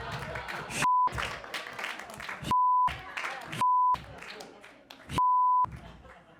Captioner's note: everyone laughs